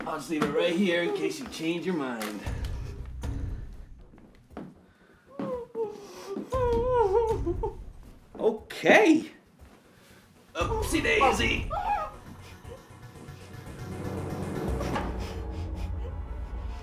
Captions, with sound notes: I'll just leave it right here in case you change your mind. (Kathy crying faintly) Okay. Oopsie daisy! (dramatic music)